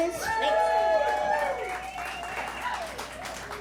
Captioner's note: clapping